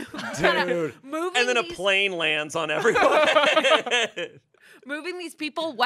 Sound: laughs

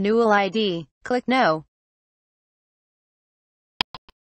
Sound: click sound

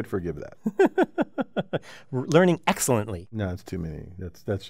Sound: laugh

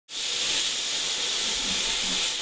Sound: gas hissing

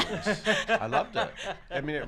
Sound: laughs

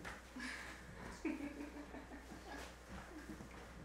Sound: laughing

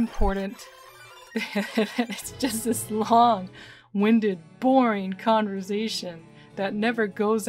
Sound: laughing

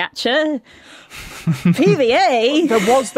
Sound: snickers

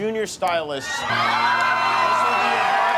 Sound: applause

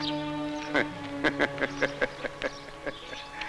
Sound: laughs

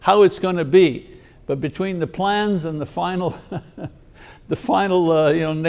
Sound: laughs

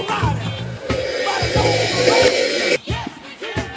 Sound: intimidating slurp

